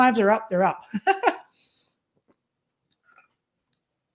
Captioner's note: laughs